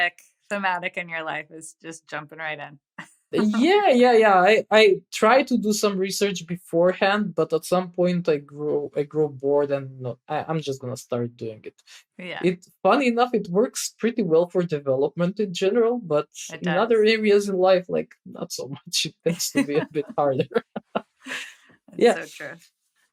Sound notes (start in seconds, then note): 18.2 <Laugh>